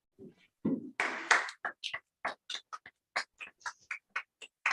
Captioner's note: applause